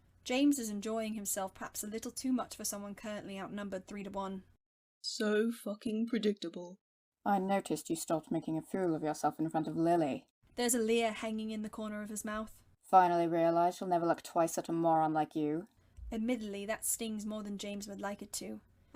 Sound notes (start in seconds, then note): none